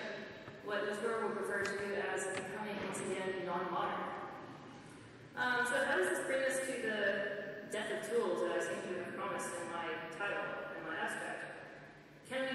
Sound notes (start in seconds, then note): none